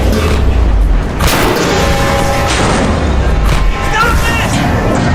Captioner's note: metal clanking